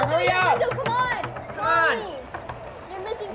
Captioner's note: knocking on door